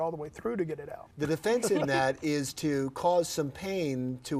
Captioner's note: laugh